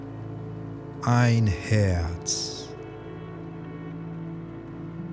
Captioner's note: german